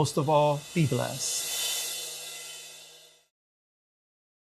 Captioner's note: air whooshing